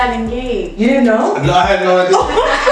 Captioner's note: laughs